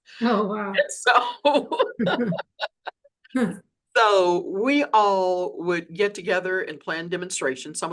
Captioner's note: laughs